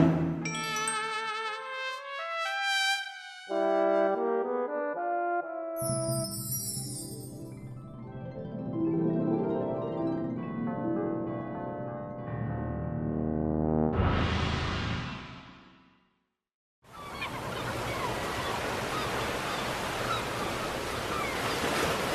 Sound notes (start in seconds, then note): 5.8 hallucination chimes; 16.8 sounds of surf and seagulls